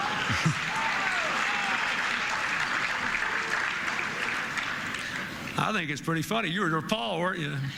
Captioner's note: applause, Laughter